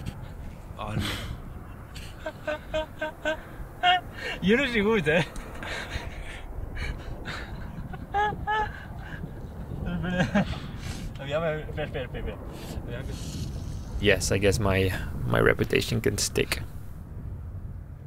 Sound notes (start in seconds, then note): 3.0 laughing; 11.1 foreign language